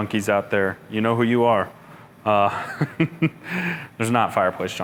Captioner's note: chuckles